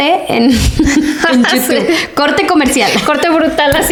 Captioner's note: laughs